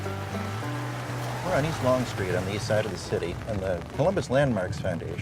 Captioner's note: rain falling on window